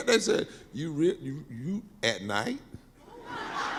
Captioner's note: laughing